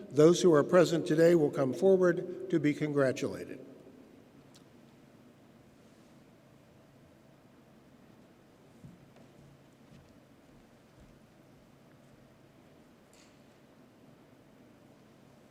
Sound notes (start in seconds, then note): none